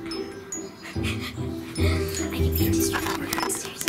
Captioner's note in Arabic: ضحك